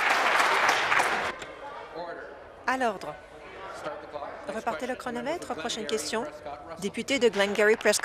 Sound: some Applause

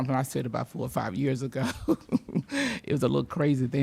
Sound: laughs

